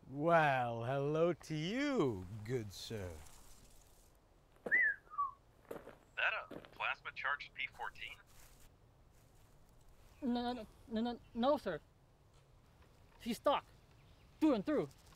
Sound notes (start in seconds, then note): 4.6 whistles